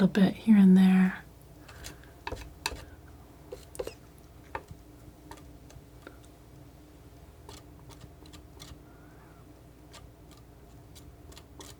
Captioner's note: scissors snipping